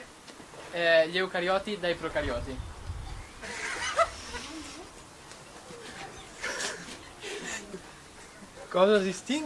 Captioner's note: laughs